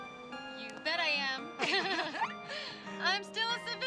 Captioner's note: laughs